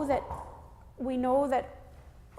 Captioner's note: knocking at Door